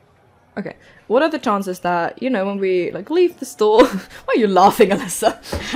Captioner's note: laughing